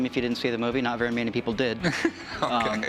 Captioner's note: laughs